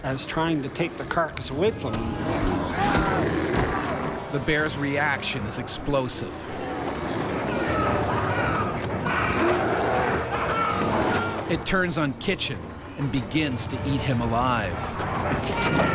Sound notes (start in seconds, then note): 4.7 voiceover; 6.6 screaming